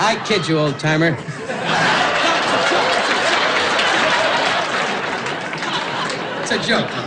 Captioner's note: laughing